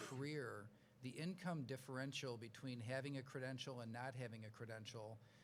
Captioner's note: coughs